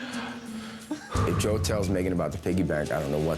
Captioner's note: takes a deep breath